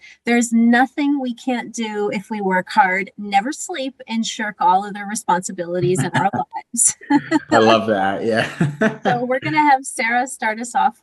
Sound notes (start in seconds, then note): 8.1 laughter